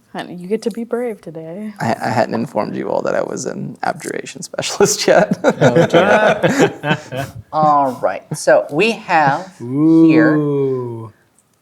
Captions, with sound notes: - Honey, you get to be brave today. - I-- I hadn't informed you all that I was an abjuration specialist yet. (laughs) (players laughing) - All right, so, we have here-- - Ooh.